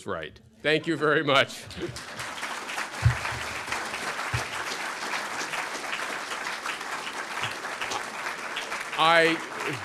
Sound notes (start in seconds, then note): 1.6 applause